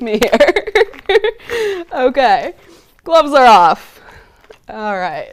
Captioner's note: laughs